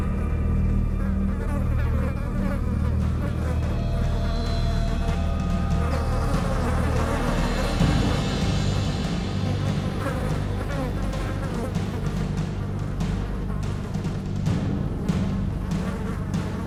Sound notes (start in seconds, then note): 0.9 flies buzzing louder